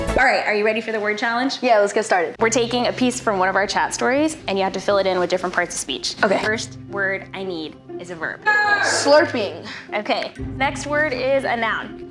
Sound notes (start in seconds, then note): 0.0 upbeat victorious music; 8.4 yells